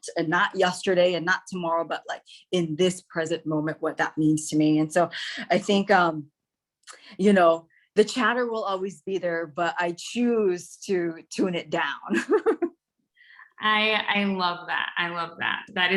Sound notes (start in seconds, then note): 12.1 laughs